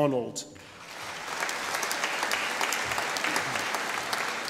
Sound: audience applauding

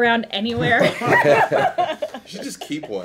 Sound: laughing

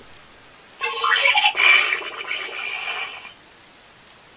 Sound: snarl Sounds

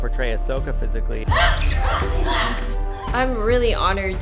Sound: shouting

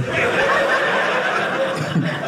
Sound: audience laughing

